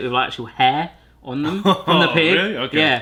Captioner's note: laughter